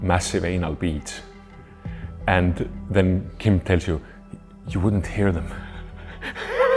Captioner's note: laughs